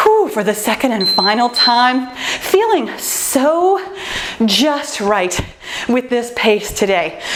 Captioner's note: timer beeps